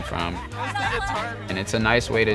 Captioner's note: students laughing